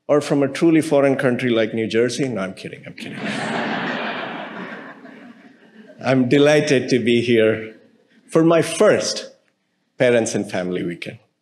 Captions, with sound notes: or from a truly foreign country like New Jersey. No, I'm kidding, I'm kidding. (audience laughing) I'm delighted to be here for my first Parents and Family Weekend.